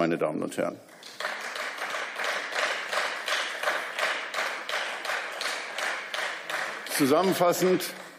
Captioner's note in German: Beifall